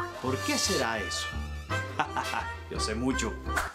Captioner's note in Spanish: Ríe